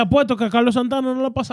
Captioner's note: speaking In Foreign Language